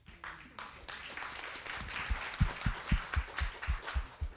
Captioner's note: audience applauding